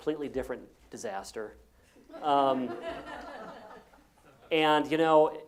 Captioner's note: laugh